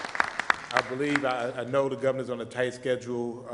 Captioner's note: applause